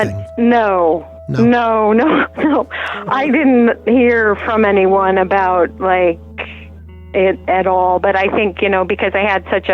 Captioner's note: laughs